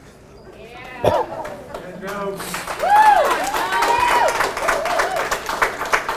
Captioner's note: audience cheers and applauds